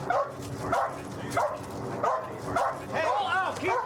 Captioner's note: dog barking